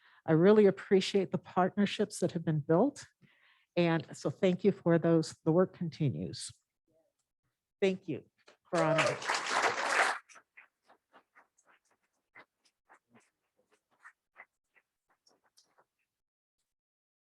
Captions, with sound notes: I really appreciate the partnerships that have been built. And so, thank you for those. The work continues. Thank you. [ Applause ]